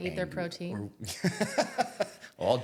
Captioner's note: laughing